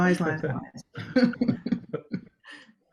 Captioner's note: laugh